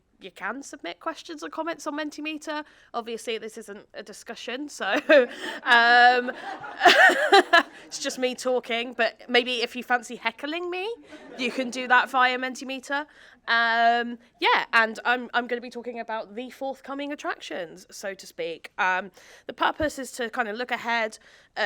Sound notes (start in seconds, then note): 4.9 laughs; 5.0 audience laughing